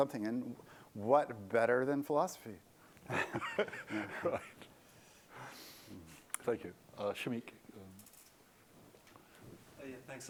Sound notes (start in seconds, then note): 3.0 laughter